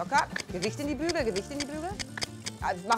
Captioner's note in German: Schnalzen